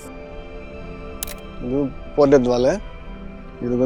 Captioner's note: in Tamil